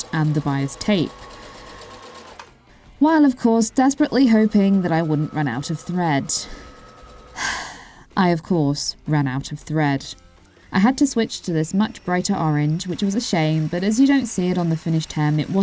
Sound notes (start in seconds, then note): 7.4 sigh